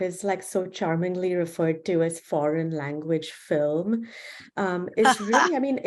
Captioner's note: laughter